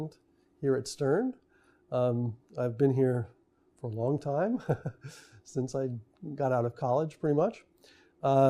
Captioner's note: laughs